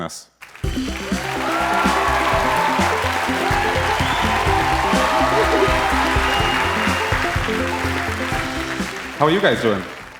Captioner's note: cheers and applause